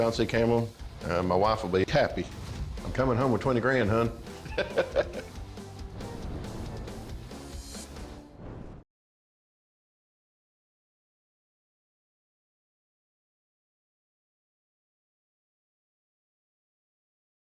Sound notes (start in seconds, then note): 4.4 laughs; 5.0 rock music playing